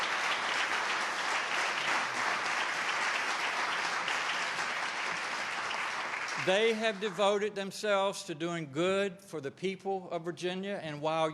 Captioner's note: applause